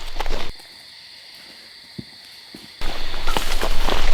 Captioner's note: insects chirp